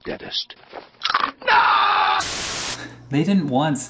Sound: bite noise

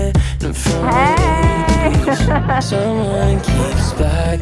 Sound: laughs

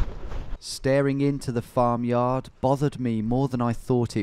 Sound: voiceover

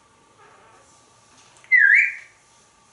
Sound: whistles

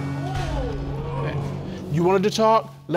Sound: audience exclaiming

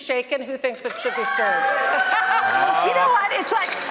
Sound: audience cheering; audience applauding

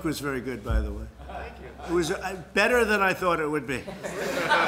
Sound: laughter

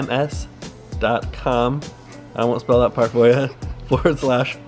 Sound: laughs

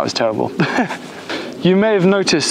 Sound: laughs

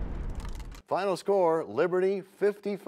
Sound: crashing sound

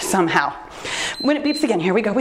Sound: timer beeps

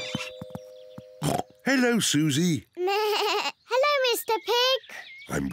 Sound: doorbell rings; oinks; bleats

